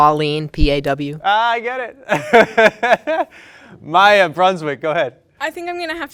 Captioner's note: laughs